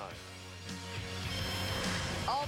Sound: none

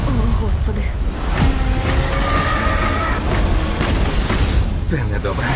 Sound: suspenseful music plays; creature screeches

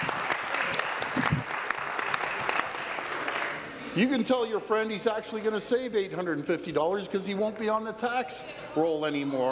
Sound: applause

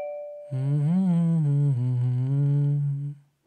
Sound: door bell rings; Sam humming

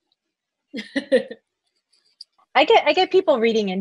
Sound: laughs

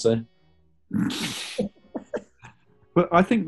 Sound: sniggering

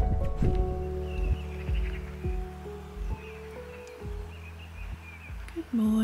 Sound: birdsong

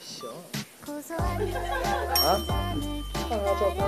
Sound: all the staff's lol-ing

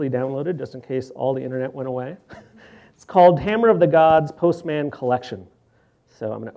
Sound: laughs

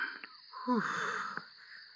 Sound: sighs

